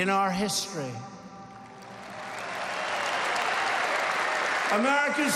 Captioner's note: applause